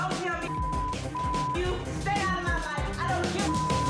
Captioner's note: beep; beep